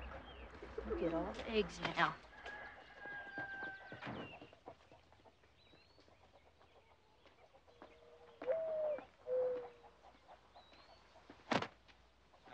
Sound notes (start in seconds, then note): 8.4 owl hooting